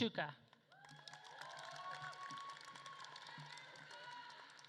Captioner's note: audience claps and cheers